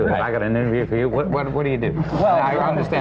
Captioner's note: laughter